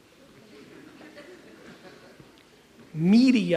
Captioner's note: audience chuckles